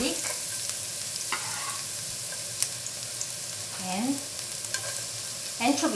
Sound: garlic and oil sizzling

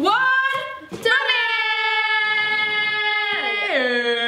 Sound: exclaiming

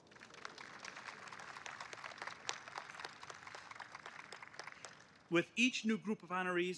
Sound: applause

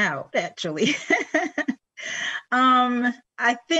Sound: laughs

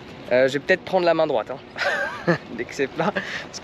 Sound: speaking in foreign language; laughing; speaking in foreign language

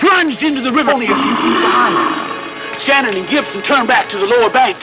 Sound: Cruzatte growling

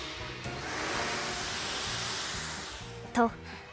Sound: whoosh!

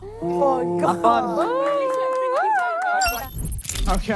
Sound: contestants cheering and jeering

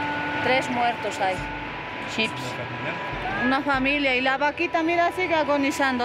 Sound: observer speaking in foreign language

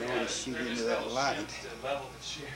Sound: talking in the background

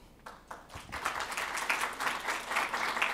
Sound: applause

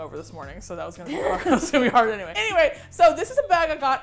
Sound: laughs

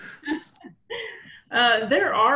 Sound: laughter

